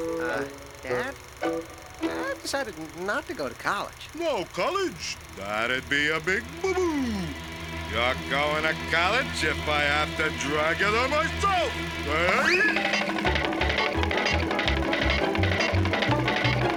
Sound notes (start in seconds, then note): 11.6 yelling